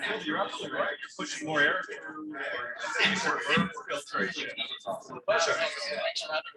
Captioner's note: people chattering indistinctly